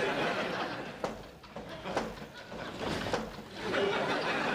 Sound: pounding on door

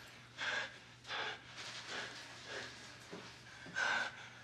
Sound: Stiles panting

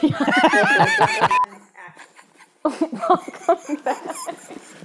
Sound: laughter

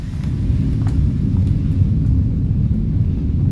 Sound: landslide sounds

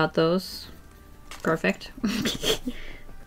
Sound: laughs

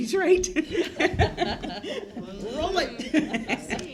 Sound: laughter

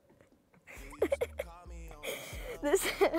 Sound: giggles

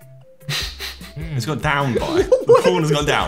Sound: chuckling

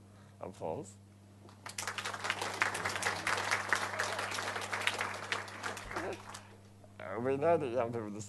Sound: crowd applauds

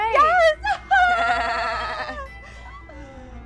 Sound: laughter

